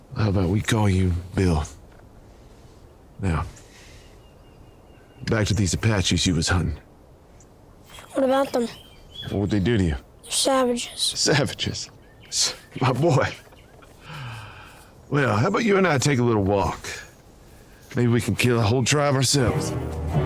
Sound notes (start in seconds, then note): 13.8 sighs and gasps